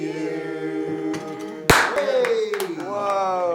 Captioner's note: bang